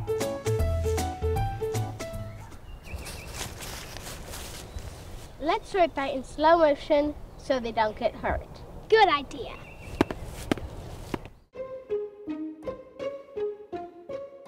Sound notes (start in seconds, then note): 2.6 birds chirping; 11.5 bright music